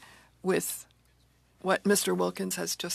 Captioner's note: speaking french